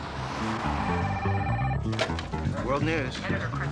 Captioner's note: telephone ringing